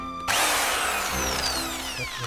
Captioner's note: loud sound of Impact Wrench firing up